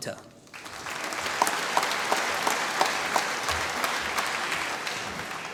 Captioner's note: applause